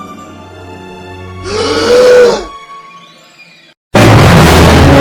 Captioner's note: Lincoln gasping